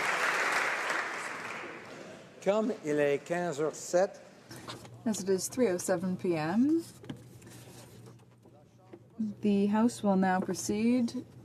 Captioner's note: applause